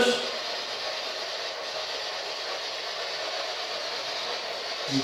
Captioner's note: white Noise